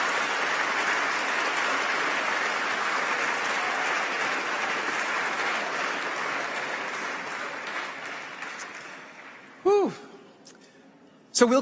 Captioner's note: applause